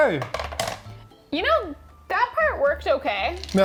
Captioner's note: plastic clinking